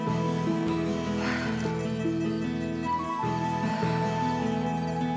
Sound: sighs

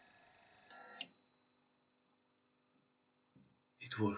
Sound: machine stops

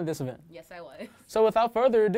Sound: laughs

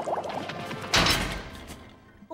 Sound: slamming

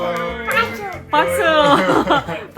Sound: clap!

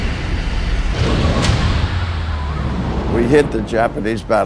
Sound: explosion

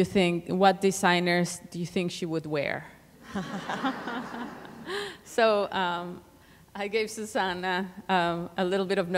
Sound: laughter

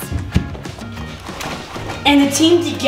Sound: gold clanging

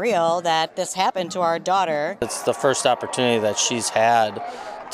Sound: applause

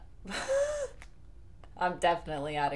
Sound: wheeze

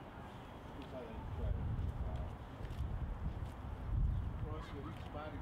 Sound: indistinct conversation

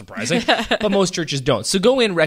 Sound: laughs

